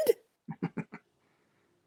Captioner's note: laughs